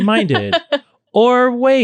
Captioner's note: laughing